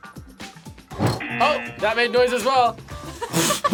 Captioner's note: buzzer; laughs